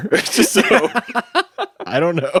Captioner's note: laughs